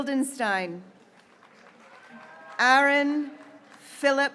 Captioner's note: graduates cheering